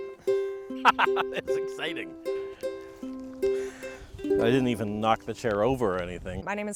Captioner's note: laughing